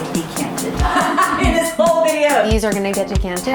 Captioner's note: laughing